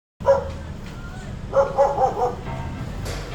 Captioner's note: dog barks